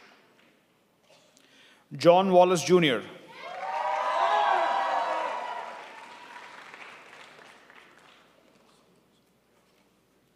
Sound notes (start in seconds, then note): 3.3 crowd applauds